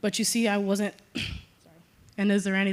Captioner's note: cough